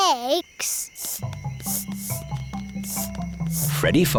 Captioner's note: sniffing